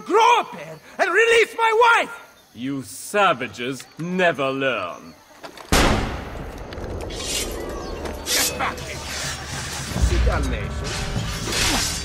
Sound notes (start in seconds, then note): 5.7 gunshot; 10.9 fighting sounds